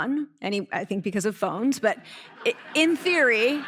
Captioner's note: audience laughter